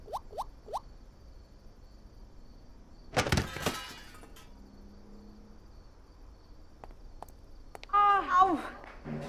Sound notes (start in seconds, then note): 3.1 Breaking sound